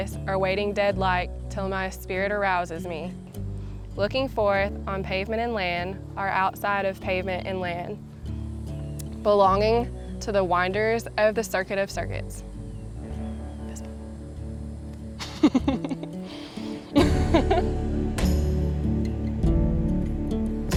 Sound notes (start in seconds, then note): 13.8 whispers; 15.2 laughter; 18.2 soft music